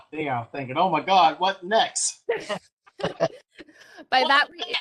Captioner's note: laughter